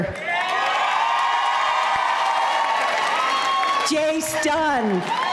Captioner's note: audience cheering